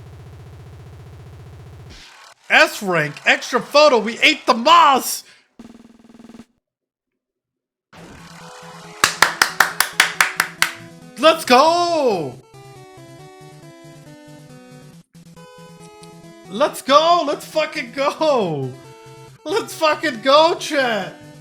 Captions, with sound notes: S-rank, extra photo. We ate the moss. [clapping] Let's go! Let's go! Let's ing go! Let's ing go, chat!